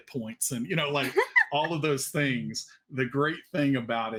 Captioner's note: laughs